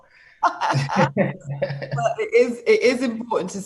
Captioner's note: both laugh